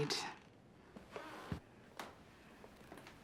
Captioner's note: door creaks